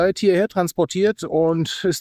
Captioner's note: speaking foreign language